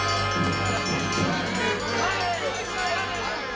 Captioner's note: shouting